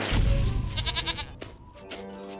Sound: bleats

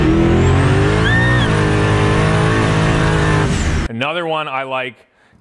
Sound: engine roaring

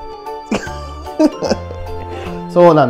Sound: laughs

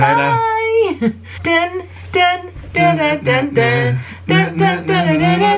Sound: hum together

